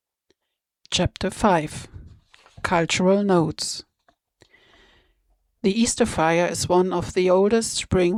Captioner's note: soft, narrating